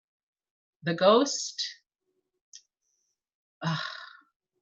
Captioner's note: sighs